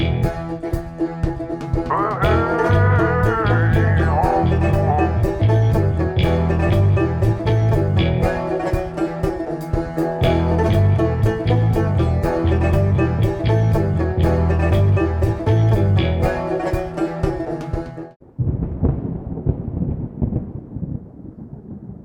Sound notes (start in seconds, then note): 1.5 upbeat music; 11.0 thunder rumbling